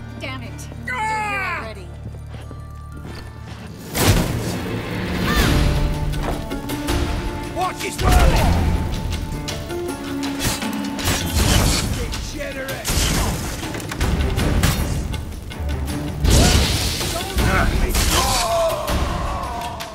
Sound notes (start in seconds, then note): 8.0 thunderous boom; 9.5 groan; 16.2 flames whoosh; 17.8 grunt; 18.1 scream